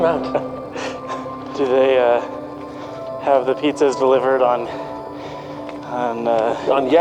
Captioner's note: laughs